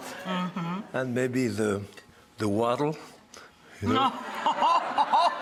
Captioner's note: audience laughs; laughs; audience laughs